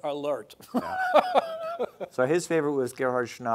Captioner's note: laughing